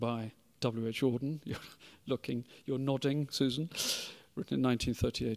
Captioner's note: chuckling